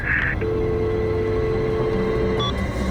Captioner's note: dial tone